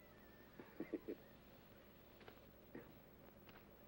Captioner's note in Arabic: هانيبال يضحك